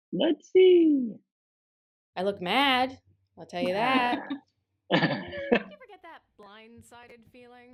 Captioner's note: laughter